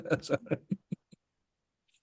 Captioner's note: laughs